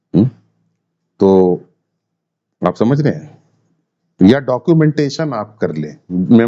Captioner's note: sound of clearing throat